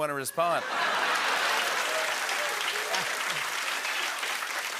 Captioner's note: laughter, cheering, and applause